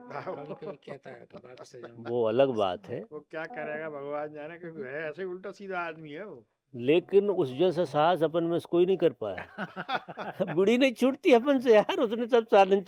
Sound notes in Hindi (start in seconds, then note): 9.3 हंसी